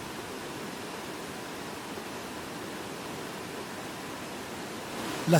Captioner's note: waterfalls sound